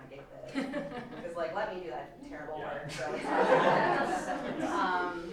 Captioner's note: laughter